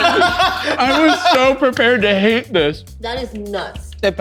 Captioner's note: all laugh